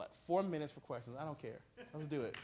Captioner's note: applause